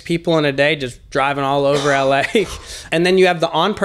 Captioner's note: laughing